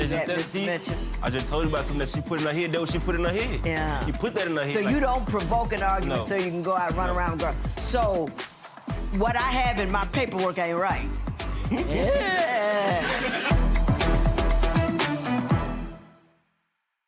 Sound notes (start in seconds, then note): 11.6 laughing; 14.7 theme music